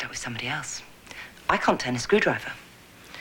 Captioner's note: none